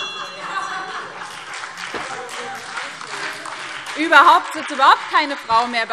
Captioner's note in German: Beifall BÜNDNIS 90/DIE GRÜNEN - Widerspruch AfD